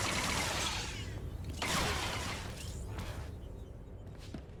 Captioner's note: gun firing